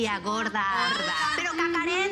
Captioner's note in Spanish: Exclamaciones